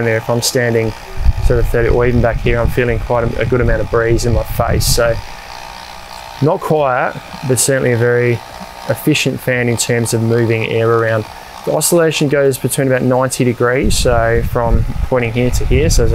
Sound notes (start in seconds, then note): 5.4 fan whirls